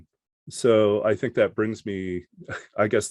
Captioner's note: chuckles